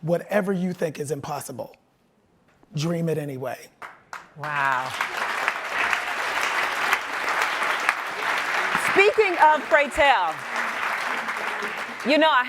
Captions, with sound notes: Whatever you think is impossible, dream it anyway. (audience applauds) - Wow. Speaking of Pray Tell, you know I have to ask you,